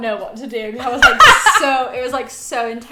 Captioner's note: laughing